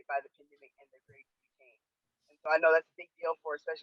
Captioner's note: faintly speaking